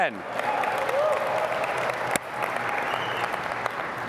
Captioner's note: cheering